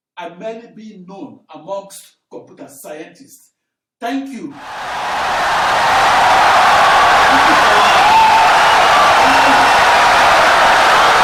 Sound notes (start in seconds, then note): 4.6 wild applause and cheering for 17 seconds